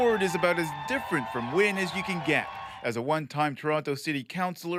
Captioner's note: applause